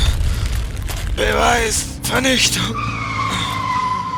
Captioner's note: groan